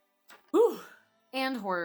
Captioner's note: whew